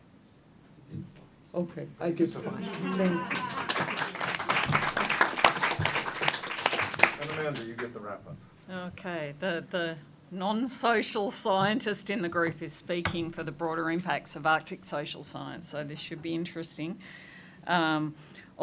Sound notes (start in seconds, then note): 2.5 applause